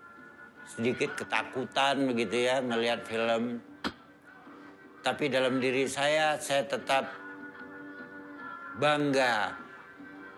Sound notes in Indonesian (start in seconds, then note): none